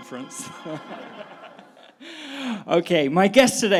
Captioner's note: all laughing